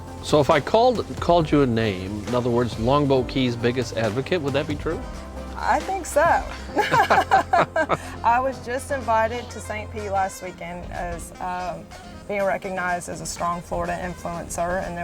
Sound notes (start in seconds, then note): 6.6 both chuckling